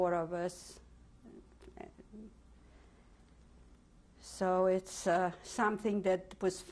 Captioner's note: pauses for 3 seconds